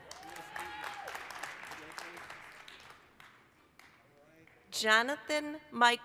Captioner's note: applause, cheering